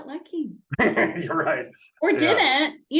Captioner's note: laughing